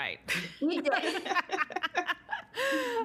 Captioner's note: laughing